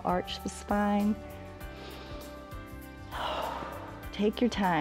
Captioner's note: inhales and exhales